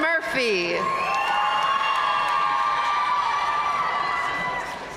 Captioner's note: audience cheering and applauding